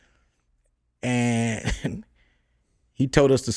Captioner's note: chuckles